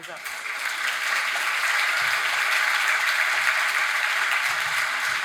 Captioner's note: audience applauding